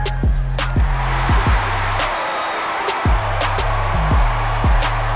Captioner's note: crowd cheers